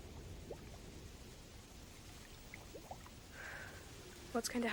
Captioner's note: wind humming; water splashing